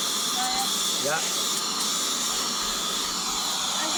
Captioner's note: air duster whirring